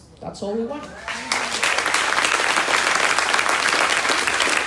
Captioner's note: crowd applauding